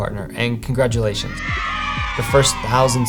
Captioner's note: kids cheering